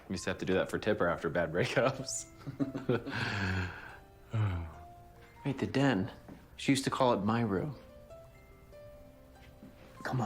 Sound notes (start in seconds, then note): 2.4 laughs; 3.0 sighs